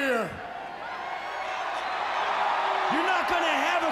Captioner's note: crowd cheering